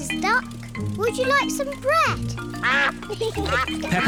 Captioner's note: ducks quack